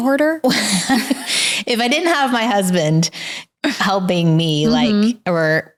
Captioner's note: laughs